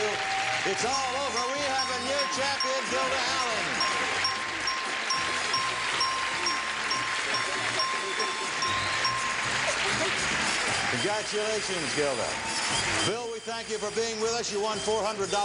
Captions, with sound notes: It's all over, we have a new champion, Gilda Allen! (bell ringing) (audience cheering) (theme music playing) Congratulations, Gilda. Bill, we thank you for being with us. You won $400 on our show, we hope you